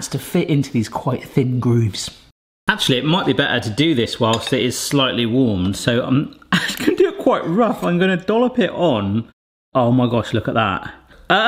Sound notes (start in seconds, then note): 6.5 chuckles